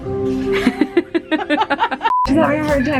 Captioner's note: girls laughing